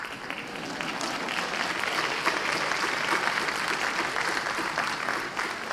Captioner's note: applause; laughing